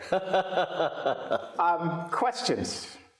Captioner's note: laughs